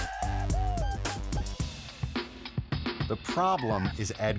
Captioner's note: group cheering; upbeat music; suspenseful music